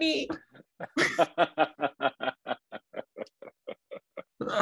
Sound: laughing

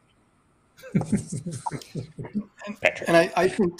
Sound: laughs

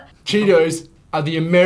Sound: none

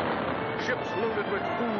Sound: cannon Fire

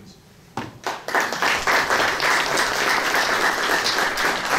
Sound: audience applauding

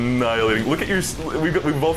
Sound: stammering

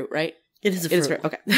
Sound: laugh

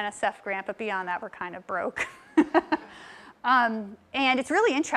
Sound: laugh

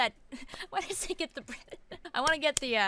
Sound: laughs

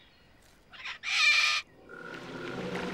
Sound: squawking

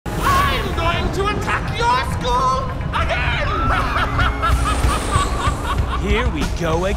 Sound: evil laugh

